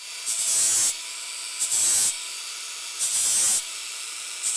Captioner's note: grinder whirs